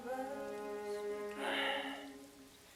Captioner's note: sigh